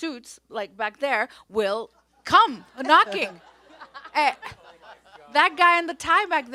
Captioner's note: everyone laughs